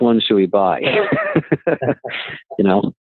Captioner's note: laughing